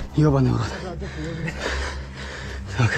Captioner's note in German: Lautes Atmen